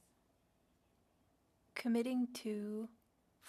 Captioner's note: speaking French